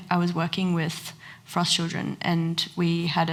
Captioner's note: none